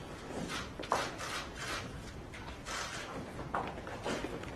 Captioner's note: camera clicks